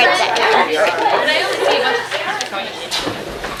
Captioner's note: chatter